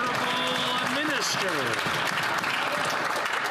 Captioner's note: applause